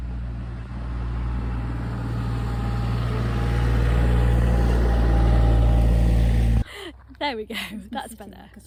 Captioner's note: motor noise in background